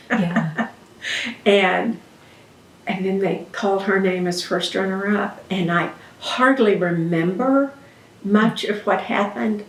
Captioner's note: laughs